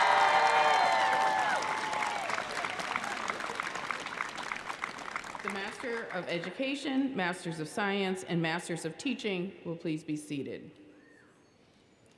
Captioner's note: applause